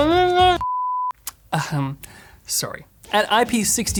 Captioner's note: beeps